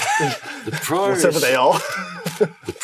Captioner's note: laughs